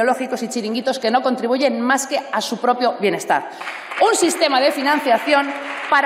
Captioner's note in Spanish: Aplausos